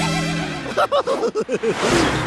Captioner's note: laughing